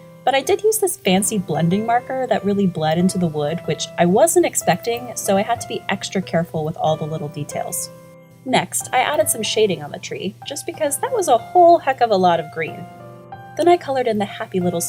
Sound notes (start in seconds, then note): none